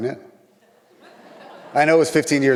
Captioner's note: audience laughs